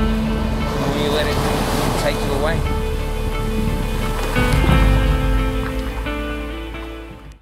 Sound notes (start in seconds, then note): 3.2 waves roaring